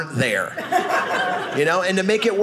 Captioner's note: audience laughing